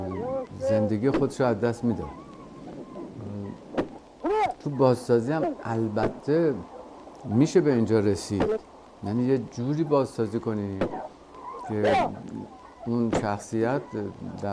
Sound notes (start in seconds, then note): 0.1 speaking foreign language; 4.3 man shouting; 7.1 speaking foreign language; 11.8 man shouting